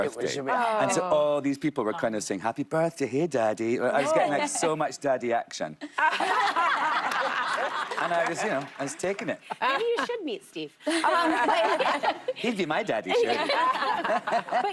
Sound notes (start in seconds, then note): 8.9 laughter and applause